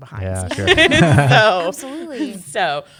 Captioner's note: chuckles